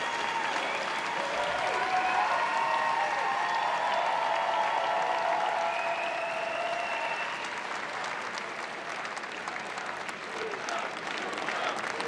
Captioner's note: cheering and applause